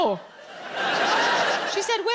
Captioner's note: audience laughing